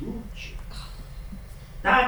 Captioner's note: scoff